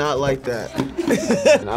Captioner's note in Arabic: يضحك